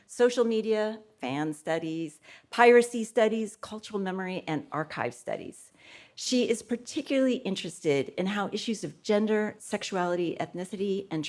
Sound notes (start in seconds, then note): none